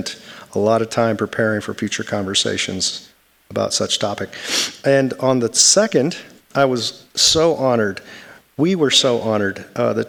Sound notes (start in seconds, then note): none